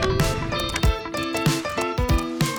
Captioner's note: typing